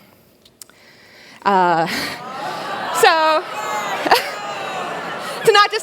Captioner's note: audience Groans